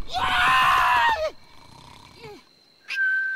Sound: silly Noises

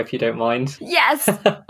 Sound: laughs

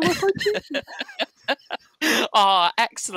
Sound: laughter

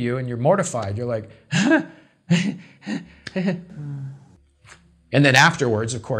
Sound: emits nervous laughter

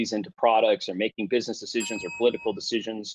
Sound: bell dings

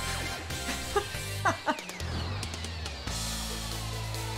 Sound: laughing

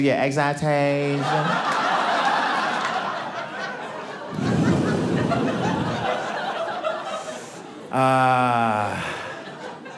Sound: audience laughing

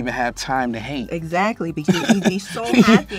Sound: laughs

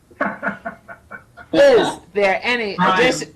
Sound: laughs

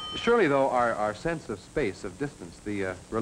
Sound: phone rings

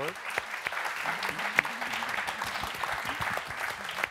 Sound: audience clapping

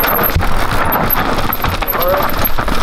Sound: crowd

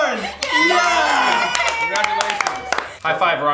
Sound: cheering

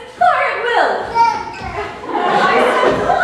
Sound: babies gurgle

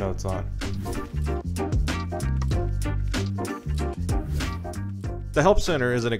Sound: air whooshing

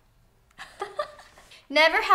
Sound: laughs

